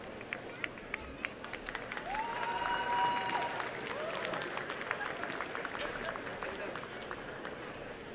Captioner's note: applause